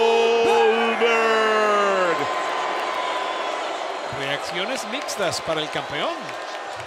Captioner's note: applause